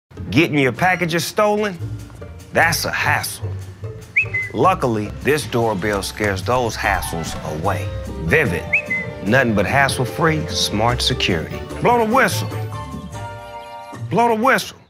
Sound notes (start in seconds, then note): 4.1 ♫ vivint doorbell camera pro whistles ♫